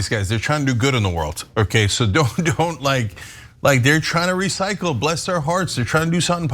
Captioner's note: laugh